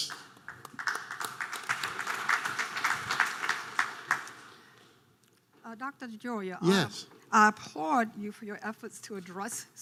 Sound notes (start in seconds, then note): 0.0 audience applause